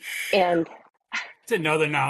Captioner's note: inhales